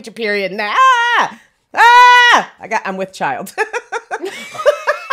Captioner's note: laughs